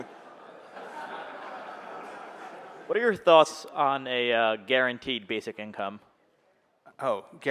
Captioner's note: laughter